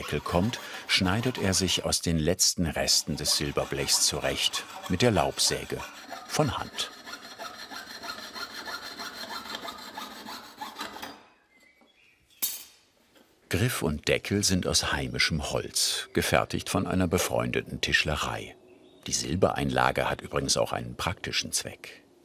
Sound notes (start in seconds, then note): 6.8 squeaky sawing